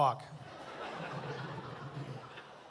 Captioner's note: chuckles